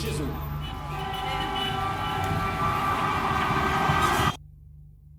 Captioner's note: traffic honking